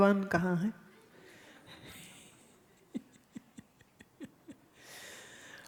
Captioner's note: Guruji laughs, audience laughs